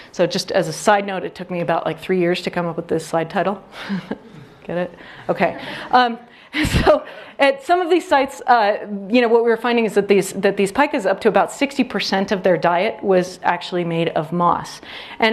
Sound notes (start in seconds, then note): 5.4 audience laughs